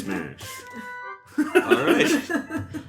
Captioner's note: laughter